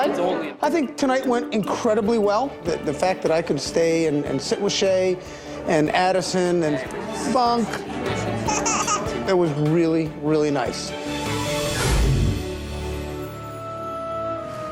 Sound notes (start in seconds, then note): 8.0 baby laughing happily; 11.2 emotional music